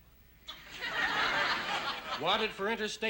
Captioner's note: laughter